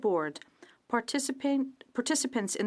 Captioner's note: speaking french